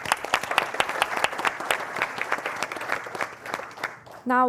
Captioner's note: applause